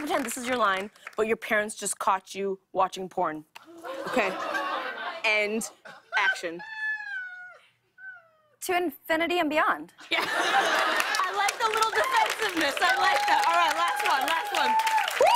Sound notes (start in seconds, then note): 2.8 audience ohs; 10.0 laughter